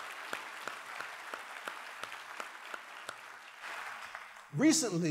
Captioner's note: applause